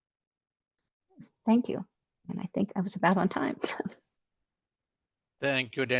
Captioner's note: laughs